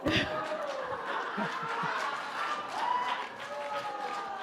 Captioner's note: audience laughing